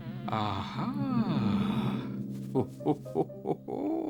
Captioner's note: laughing